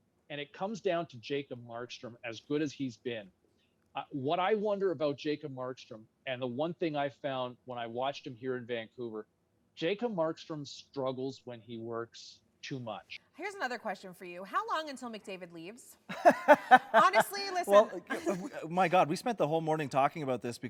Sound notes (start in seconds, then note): 16.1 chuckling